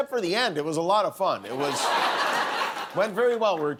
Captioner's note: laughter